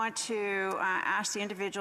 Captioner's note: speaking French